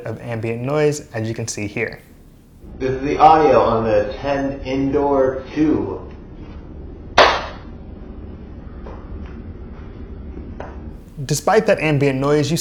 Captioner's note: speaks with ambient noise